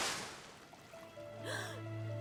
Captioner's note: gasp